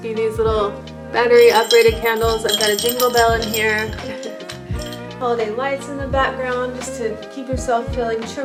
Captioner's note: bell chimes, chuckles